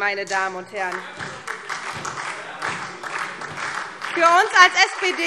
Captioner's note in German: Beifall SPD